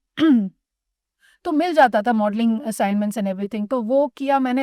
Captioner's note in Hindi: गला साफ़ करने की आवाज़